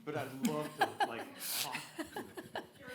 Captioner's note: laughter